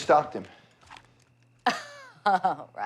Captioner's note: laughs